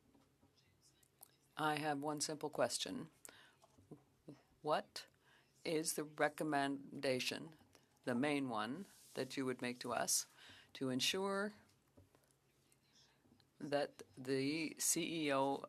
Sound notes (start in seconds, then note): 6.1 speaking French